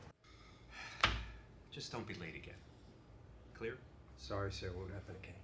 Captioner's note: sighing